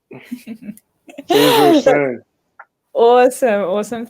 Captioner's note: laughing